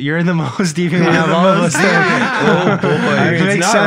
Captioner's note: group laughing